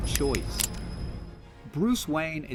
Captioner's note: click